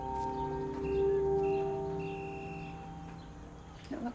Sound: whistle trilling

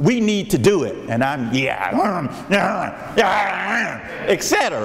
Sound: grunting excitedly

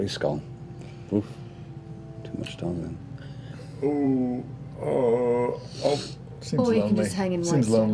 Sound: hesitant noises

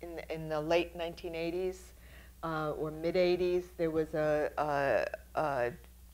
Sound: none

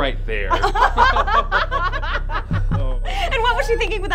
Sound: laughter

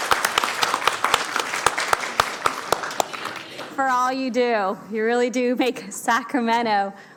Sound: applause

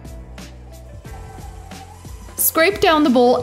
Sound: upbeat music; mixer whirring

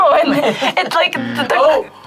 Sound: laughs; buzzer rings

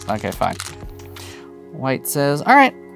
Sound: stones rattling

